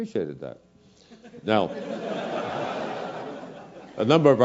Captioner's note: laugh